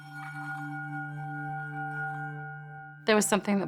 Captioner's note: bell ringing